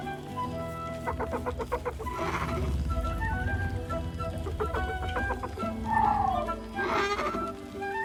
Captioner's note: Owlbear sounds